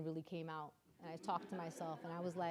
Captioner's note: audience laughing